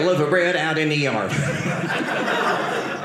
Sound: audience laughing

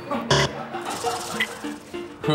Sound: buzzer

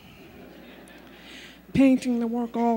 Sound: laughter

